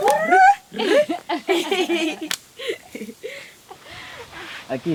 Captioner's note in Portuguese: Risadas